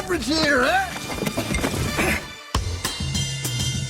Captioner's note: groaning; cheerful music